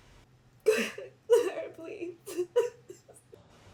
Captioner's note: sobbing